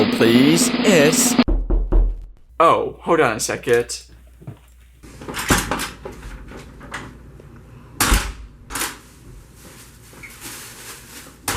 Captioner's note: knock